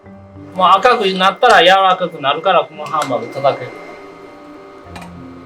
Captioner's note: speaking foreign language